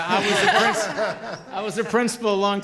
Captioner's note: group laughter